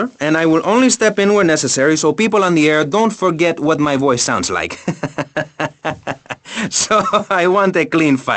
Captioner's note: chuckles